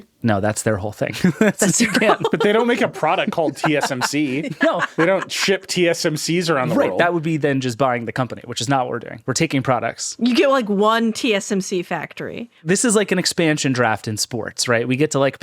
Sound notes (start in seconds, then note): 1.1 all laughing